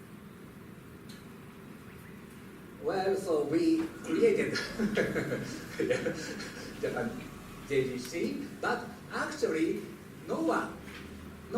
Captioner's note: laughs